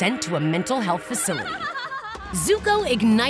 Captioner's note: Azula laughing